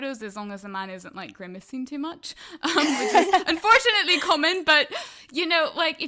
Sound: laughter

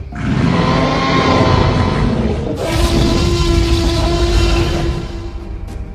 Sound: roaring

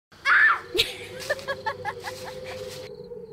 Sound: scream; evil Laughter

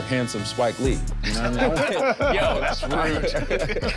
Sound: everyone laughing amusingly

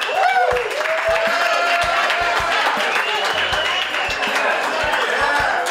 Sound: audience cheering and clapping

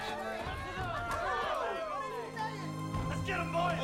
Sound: cheering

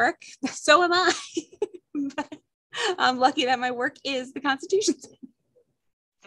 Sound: laughter

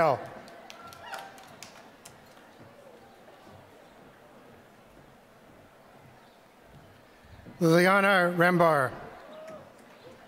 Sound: applause

